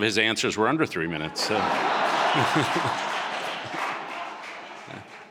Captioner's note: audience laughing